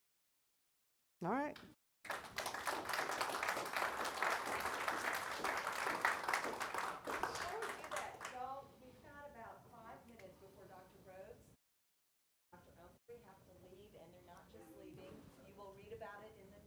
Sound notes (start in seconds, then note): 3.6 audience applauding